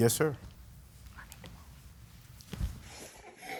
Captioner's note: whispering